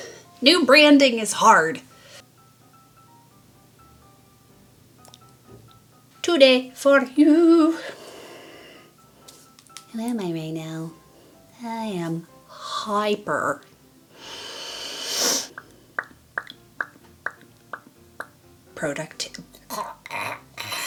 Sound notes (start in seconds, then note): 3.0 SING-SONGY VOICE: Today for you; 14.1 nasaly inhale